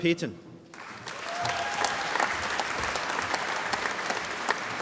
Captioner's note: applause